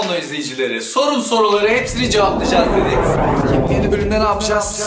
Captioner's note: high pitched scream